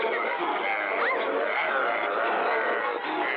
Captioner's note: growling